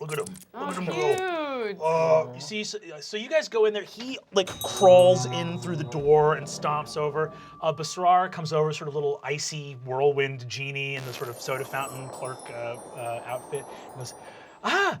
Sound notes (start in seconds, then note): 0.0 sound of rat squeaks; 5.6 bell jingles; 14.7 exotic accent